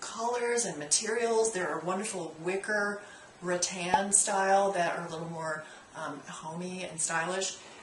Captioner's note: pop